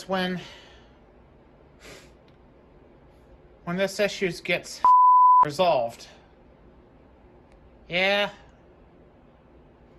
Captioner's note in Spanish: pitido